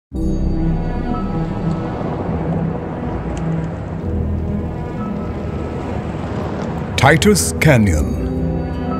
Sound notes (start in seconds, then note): 0.4 magestic music; 1.3 vehicles drive by on gravel